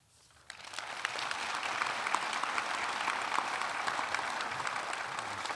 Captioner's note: audience applauding